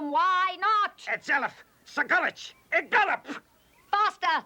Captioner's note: barking commands